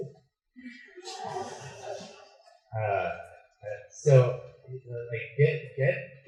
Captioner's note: laughter